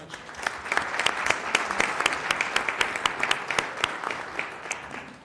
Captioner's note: applause